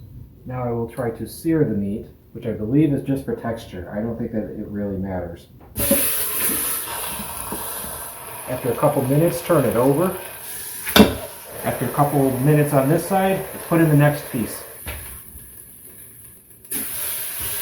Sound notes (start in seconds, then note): 7.4 sizzling